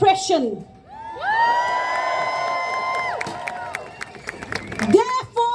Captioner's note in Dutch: Gejuich